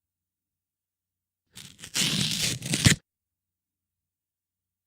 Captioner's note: ripping